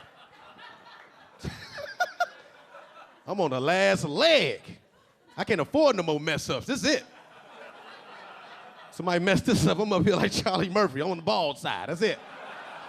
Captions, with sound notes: (LilRel laughing) I'm on the last leg! I can't afford no more mess ups. This is it. (audience laughing) Somebody messed this up, I'm gonna feel like Charlie Murphy. I'm on the bald side. That's it.